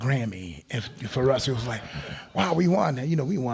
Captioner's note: crowd laughing